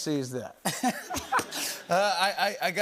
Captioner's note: laughter